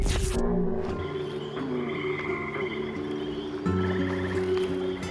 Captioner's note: pensive music; birds singing; water flowing